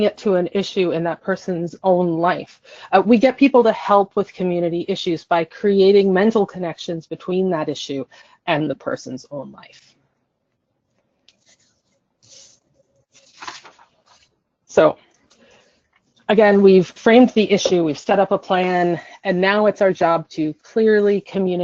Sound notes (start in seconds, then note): 10.0 silence